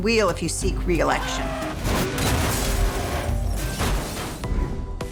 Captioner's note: car crashing